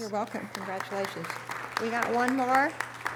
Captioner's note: audience applause